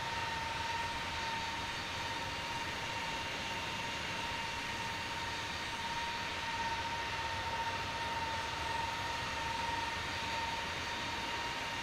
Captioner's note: engine Sound